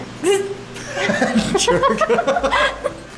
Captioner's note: laughter